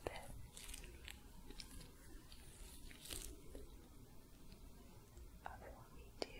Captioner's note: soft brushing, sticky sounds